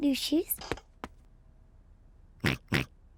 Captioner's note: oinks